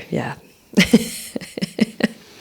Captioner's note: laughter